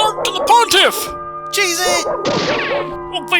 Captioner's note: cartoon pistol sound